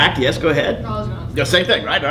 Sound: student off mic

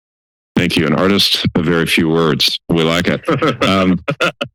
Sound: laughter

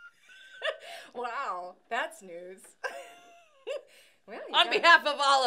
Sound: laughing; laughing

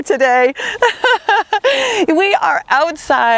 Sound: laughs

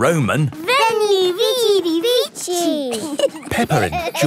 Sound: laughing

